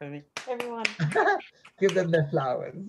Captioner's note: both applaud